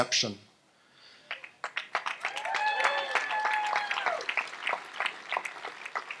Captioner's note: audience applauds and cheers